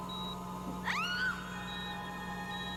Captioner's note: woman screaming